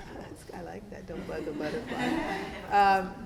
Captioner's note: class laughing